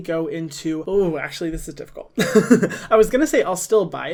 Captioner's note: giggles